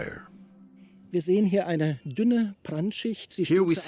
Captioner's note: man speaking German